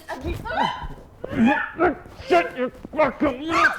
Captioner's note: Jessie screams